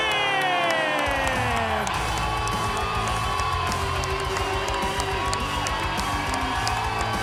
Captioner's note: crowd cheering; rock music